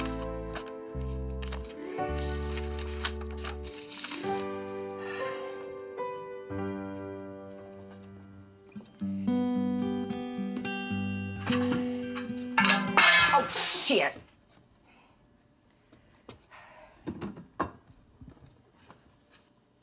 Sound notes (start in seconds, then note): 0.0 papers rustling; 5.4 Mama exhales; 9.1 gentle music continues; 12.5 pie tin clatters; 12.5 dishware clattering; 16.6 Mama exhales